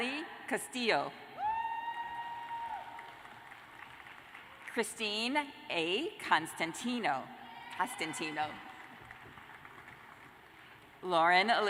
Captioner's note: cheers and applause